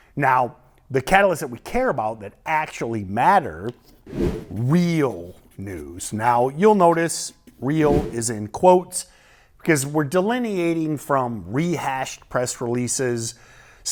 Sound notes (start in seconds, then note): 4.0 screen whooshes